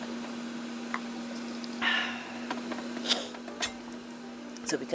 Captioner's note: sips, ahh's